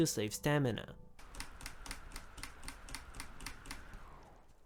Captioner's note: keyboard noises